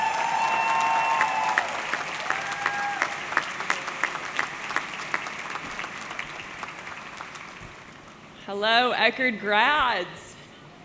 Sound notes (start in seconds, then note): 0.0 audience cheering; 0.0 audience clapping